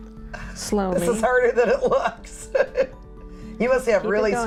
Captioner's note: laughs